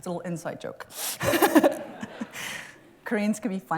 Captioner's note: laughs